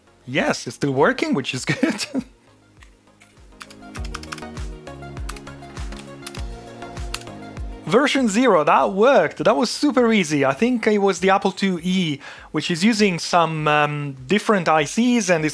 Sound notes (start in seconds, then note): 1.7 laughs; 3.5 keyboard clicking